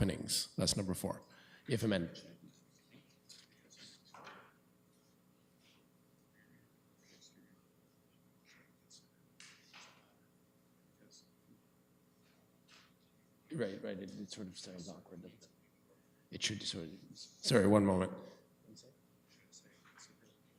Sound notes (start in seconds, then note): 4.0 whispering